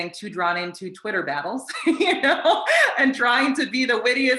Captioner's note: laughs